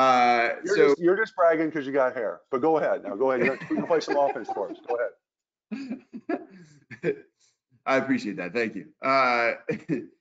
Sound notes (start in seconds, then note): 3.2 laughs